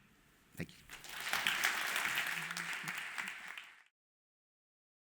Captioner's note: audience applauding